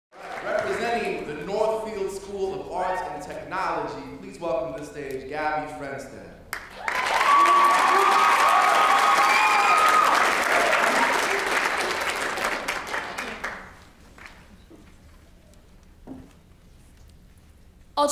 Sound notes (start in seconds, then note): 6.5 applause